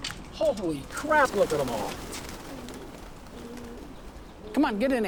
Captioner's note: wings fluttering